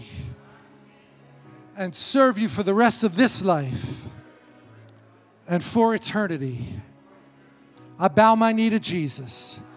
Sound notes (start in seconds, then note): 0.0 congregation repeating; 7.7 congregation repeating